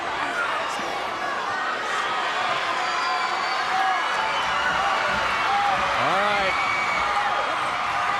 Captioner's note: crowd chatter